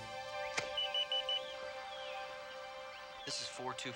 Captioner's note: phone beeping